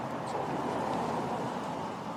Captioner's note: vehicles driving